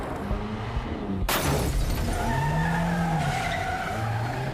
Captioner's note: tires screech